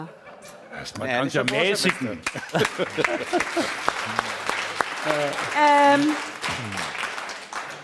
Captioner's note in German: Applaus